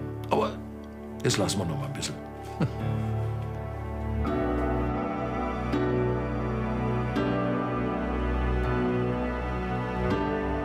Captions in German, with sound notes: Aber ... das lassen wir noch mal ein bisschen. (Leises Lachen) (Gefühlvolle, ruhige Musik)